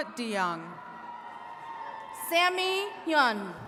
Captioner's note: attendees cheering